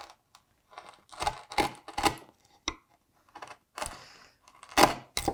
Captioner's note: hard wood crunching